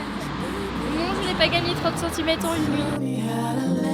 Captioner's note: laughs